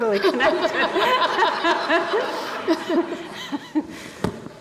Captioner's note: laughs loudly